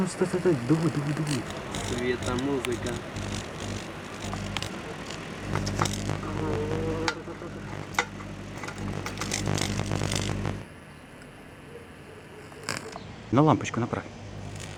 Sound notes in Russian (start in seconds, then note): 2.1 играется с лампочкой получая странные звуки